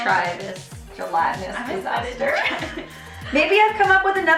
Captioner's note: laughing